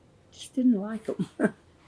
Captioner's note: laughs